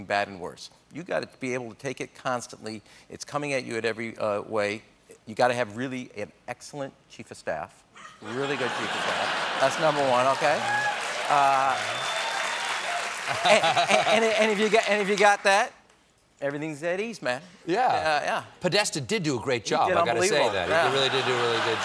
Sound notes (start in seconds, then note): 8.9 applause